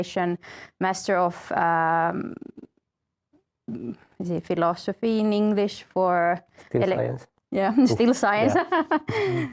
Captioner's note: laughs